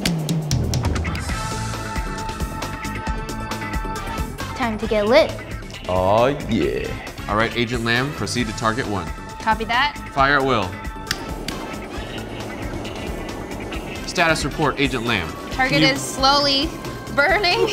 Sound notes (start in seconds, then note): 0.1 torch whirring; 1.5 upbeat drum music; 11.1 torches whirring